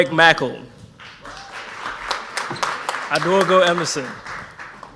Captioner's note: audience applauds